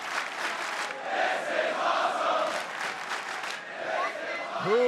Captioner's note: clapping; clapping